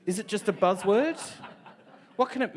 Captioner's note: audience laughs